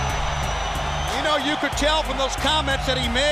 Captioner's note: crowd cheering